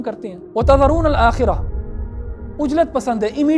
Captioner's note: Arabic